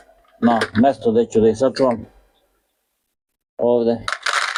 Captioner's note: coughs